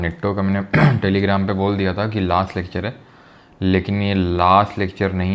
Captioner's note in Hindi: गला साफ़ करने की आवाज़